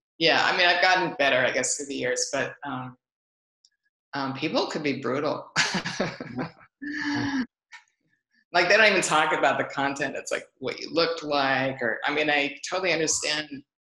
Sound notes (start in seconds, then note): 6.9 laughs